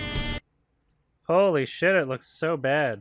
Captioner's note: none